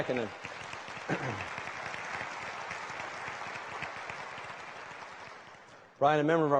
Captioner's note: applause